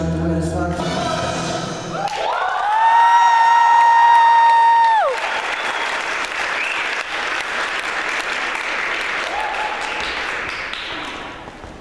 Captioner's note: applause